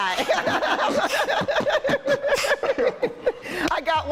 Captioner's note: laughing